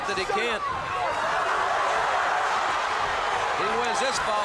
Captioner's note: crowd cheering